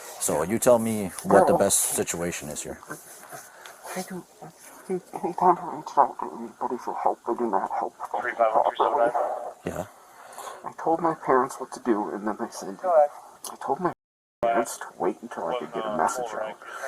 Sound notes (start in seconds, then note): 7.2 radio chatter